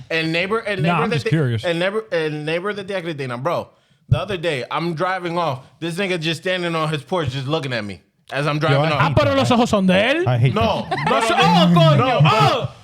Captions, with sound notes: And neighbor-- Nah, I'm just curious. And neighbor of the day, I got it, bro. The other day, I'm driving off, this nigga just standing on his porch, just looking at me as I'm driving off. (Speaking In Foreign Language) No. Oh, fuck you, oh!